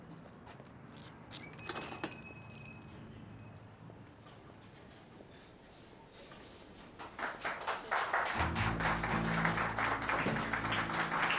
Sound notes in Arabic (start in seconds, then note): 0.0 خطوات; 1.6 يفتح الباب، رنين الأجراس; 2.7 خطوات; 6.9 الضيوف يصفقون